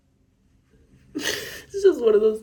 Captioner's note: sniffles; cries softly